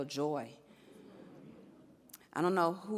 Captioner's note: audience laughs